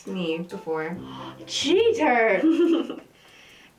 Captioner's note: gasp